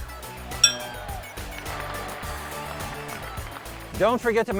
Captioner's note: horse shoe clanking; crowd cheering